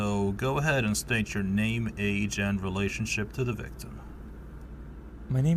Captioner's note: none